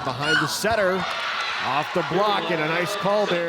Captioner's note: audience cheering